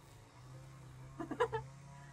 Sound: laughs

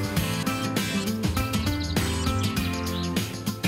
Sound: birds chirping

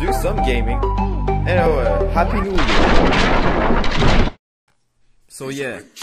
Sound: explosion

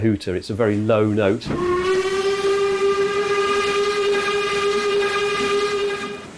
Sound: low whistle sounds twice

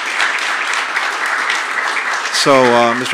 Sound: applause

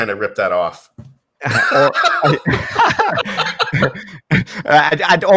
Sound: both laughing

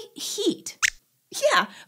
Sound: squeaks squeaks

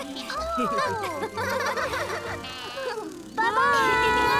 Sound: all laughing

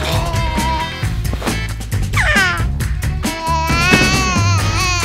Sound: baby squeals happily; upbeat music

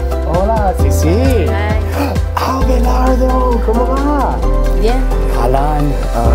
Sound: speaking in Spanish; group continues speaking in Spanish

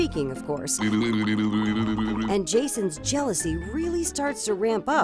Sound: blowing bubbles

